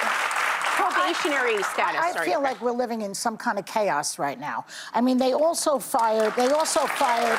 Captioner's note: applause